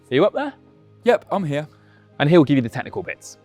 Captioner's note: voiceover